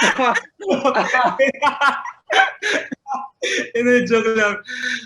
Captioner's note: laughing continues